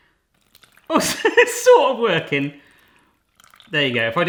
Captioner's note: laughs